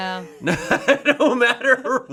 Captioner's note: laughs